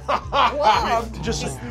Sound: laughing

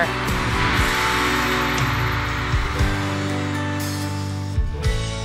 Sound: cheering crowd swells

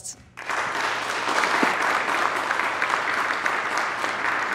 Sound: audience applauding

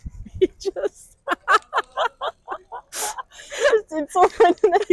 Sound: laughter

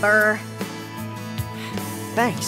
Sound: sighs

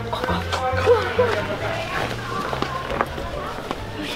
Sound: hushed whispers

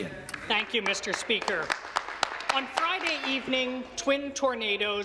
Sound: some applause

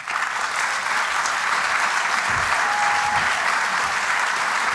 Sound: applause

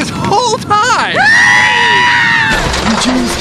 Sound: screams

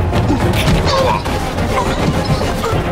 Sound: punch sound

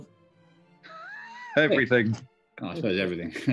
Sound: sniggering

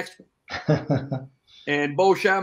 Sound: chuckling

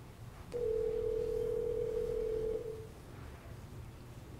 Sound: phone ringing

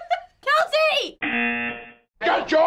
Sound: laughing; buzzer

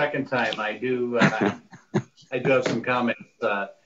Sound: laughing

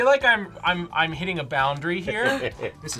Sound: chuckles

